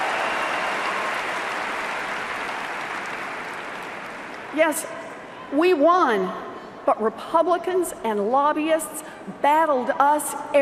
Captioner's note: cheers and Applause